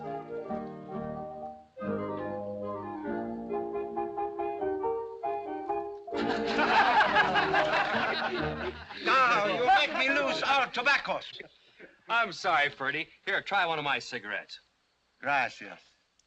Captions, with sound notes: [ LAUGHTER ] You made me lose all tobaccos! I'm sorry, Freddie, here, try one of my cigarettes. [ IN SPANISH ] Thank you.